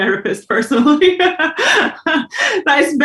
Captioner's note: Karen laughs